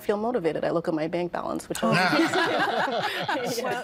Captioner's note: all laughing